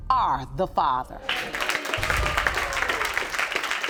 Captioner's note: audience applauding